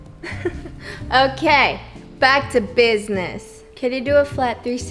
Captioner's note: laughs